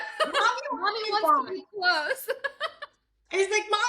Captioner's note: laughs